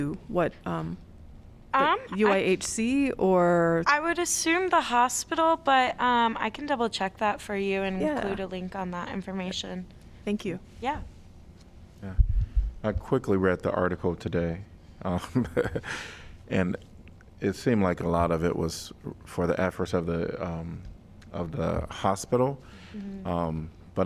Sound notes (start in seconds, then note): 15.2 laughter